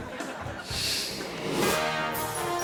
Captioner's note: audience laughing; graphic whooshes; proud music